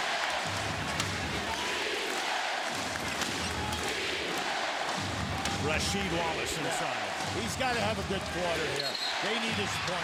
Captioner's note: crowd chanting "defense"